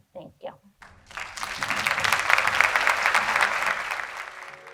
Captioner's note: audience applauding